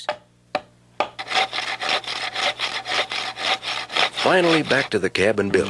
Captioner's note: woodworking tools scraping